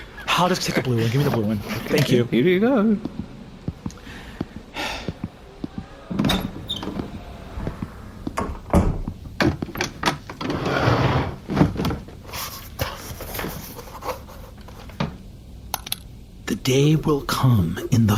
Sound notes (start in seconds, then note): 0.4 laughing; 7.2 scribbling furiously